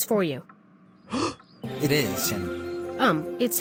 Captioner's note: gasp